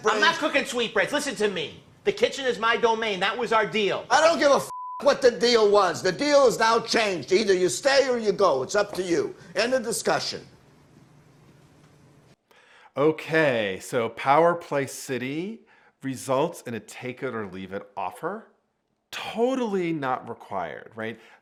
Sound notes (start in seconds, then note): 4.7 beep